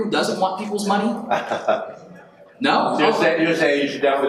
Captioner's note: attendee laughs